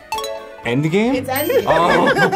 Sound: klaxon sounds; bell dings

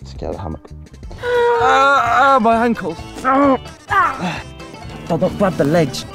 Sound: chaos & grunting

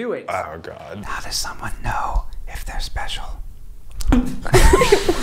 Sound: whispering; laughing

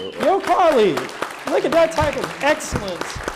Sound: audience applauding

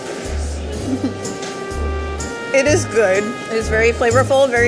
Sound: chuckles

